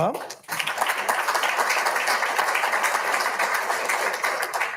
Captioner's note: audience applauding